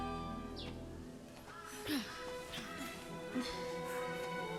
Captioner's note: panting